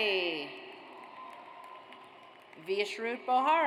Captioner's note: audience applauds